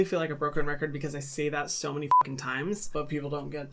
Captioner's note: beep